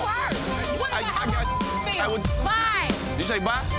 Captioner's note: overlapping chatter